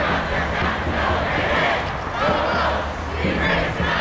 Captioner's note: crowd